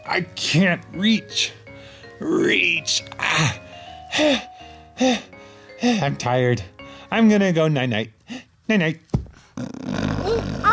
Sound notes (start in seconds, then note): 3.2 heavy breathing; 9.5 snoring; 10.4 mumbling